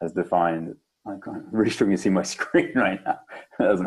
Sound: laughs

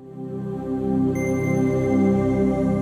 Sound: ping

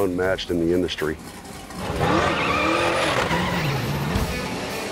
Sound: car engine roaring; rock music

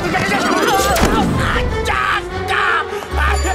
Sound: groans

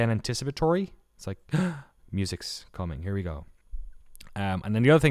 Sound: gasps

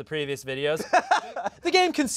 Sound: laughing

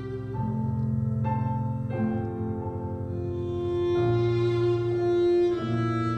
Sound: none

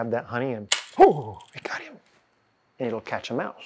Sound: snapping

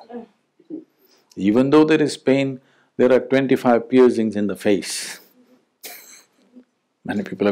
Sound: laughs

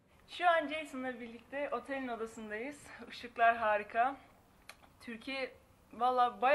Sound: speaking in a foreign language

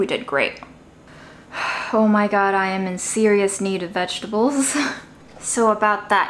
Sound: sighs

